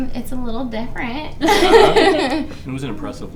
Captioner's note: laughing